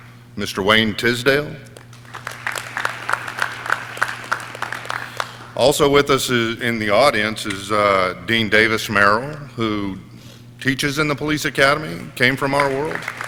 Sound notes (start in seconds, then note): 1.7 audience clapping